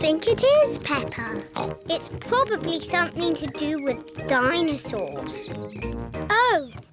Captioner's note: bleats; oinks